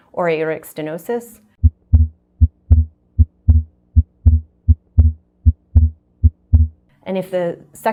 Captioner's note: heart beating